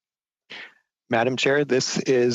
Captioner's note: laughter